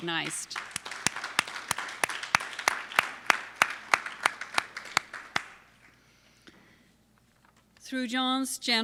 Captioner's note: applause